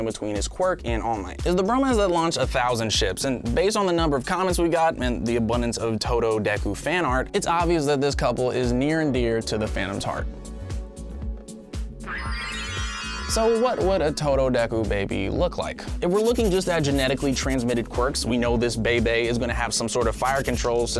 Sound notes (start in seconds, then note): 12.0 magic chimes SFX